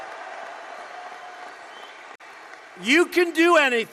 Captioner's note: applause